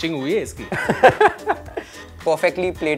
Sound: laugh

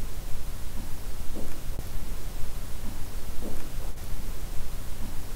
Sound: footsteps thudding

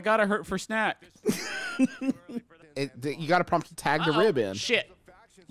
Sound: laughing

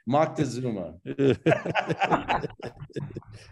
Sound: all laughing

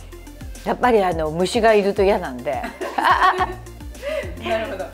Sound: laughs

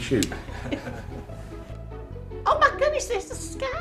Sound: laughing

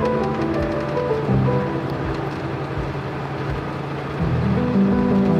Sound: winch ratcheting; uplifting music

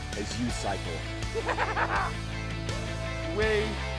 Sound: laughing

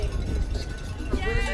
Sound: nats cowbell and cheers

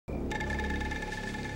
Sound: rattling

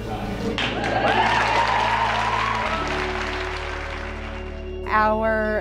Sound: clapping; cheering

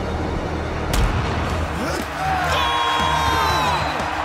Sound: grunting

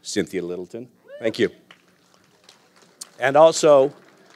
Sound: audience applauding

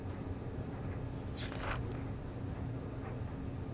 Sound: paper flap

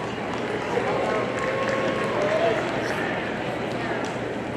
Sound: audience applauding

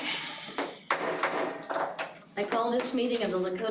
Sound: gavel banging

